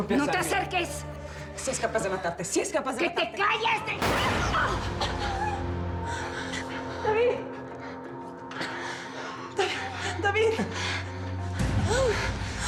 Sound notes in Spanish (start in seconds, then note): 6.2 Disparo; 11.7 Sollozos